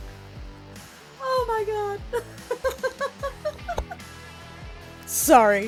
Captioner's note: cackling laugher in the distance